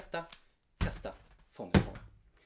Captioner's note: thud